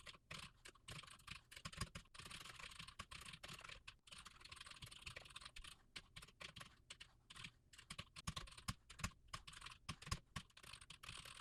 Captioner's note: typing sounds